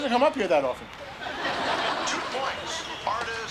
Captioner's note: audience laughter